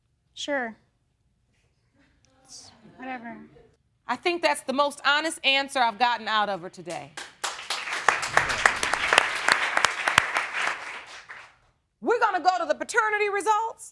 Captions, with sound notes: Sure. It's... Whatever. I think that's the most honest answer I've gotten out of her today. (APPLAUSE) We're gonna go to the paternity results